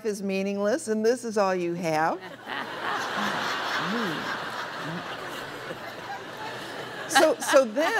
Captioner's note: laughter